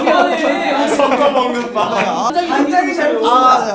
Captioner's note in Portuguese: risada